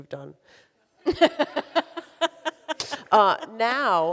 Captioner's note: laughs